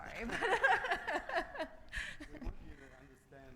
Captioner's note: laughs